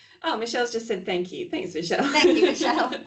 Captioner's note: laughing